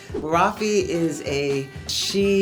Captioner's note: air whooshing